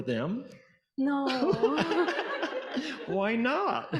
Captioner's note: audience laughing